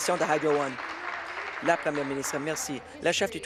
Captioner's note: applause